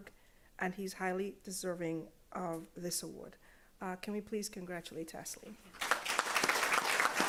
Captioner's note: applause